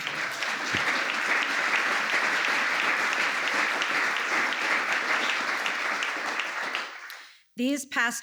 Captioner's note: applause